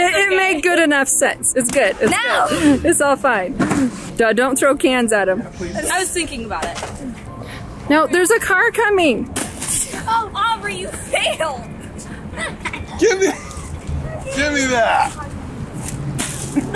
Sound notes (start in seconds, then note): 12.3 little girl laughs